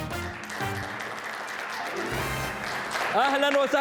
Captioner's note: clapping